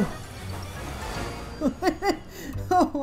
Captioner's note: porter chuckles